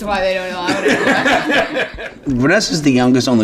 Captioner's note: laughing